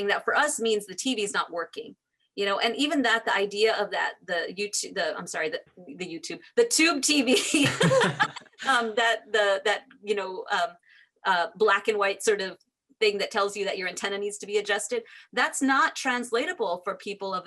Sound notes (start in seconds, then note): 7.6 laughs